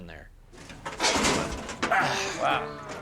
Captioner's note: clanging